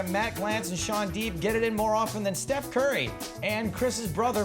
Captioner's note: none